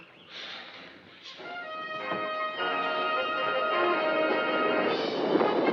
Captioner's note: tv playing loudly